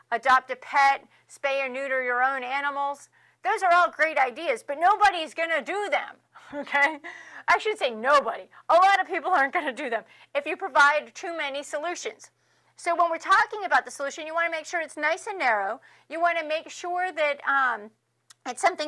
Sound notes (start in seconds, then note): 6.4 laughs